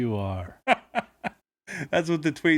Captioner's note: laughing